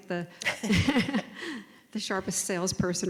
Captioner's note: laugh